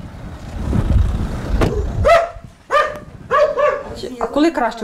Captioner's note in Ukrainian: Гавкає пес